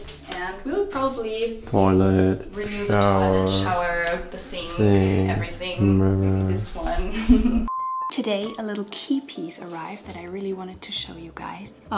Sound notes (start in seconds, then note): 7.0 laughs softly